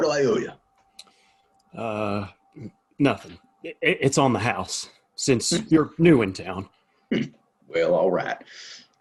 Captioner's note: clears throat